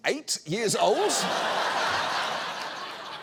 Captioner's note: audience laughs